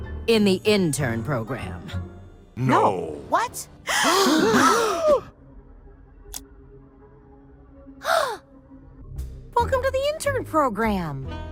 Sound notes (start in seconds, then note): 3.9 gasps; 8.0 gasp